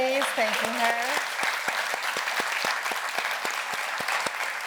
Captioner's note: audience applauds